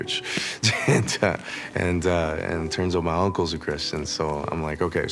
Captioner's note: chuckles